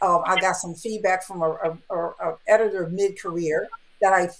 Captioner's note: none